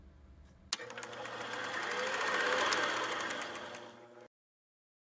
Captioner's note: reel spools out